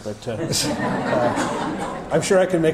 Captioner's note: audience laughter